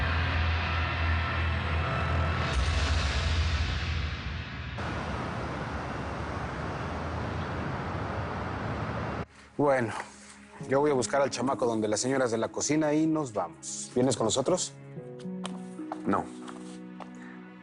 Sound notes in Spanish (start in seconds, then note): none